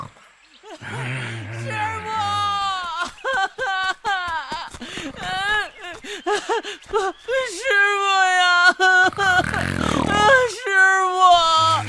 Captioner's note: sobbing